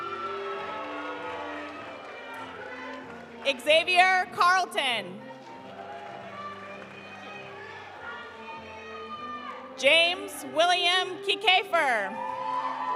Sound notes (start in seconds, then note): 0.0 audience cheering; 0.0 audience applauding; 5.2 audience applauding; 5.3 audience cheering; 12.1 audience cheering; 12.2 audience applauding